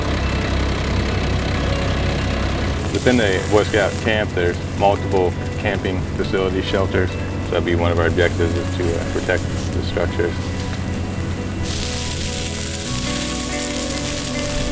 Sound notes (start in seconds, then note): 0.1 background music and sound of wildland fire engine running its engine; 3.5 sound of water coming out of hose; 12.0 crackling flames and background music